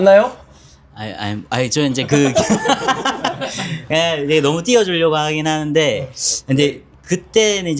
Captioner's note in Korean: 웃음